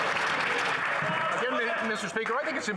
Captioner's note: some Applause